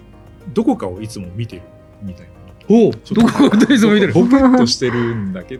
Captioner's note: laughs